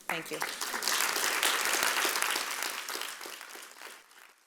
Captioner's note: audience applauding